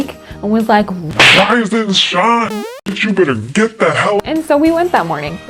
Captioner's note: holy slap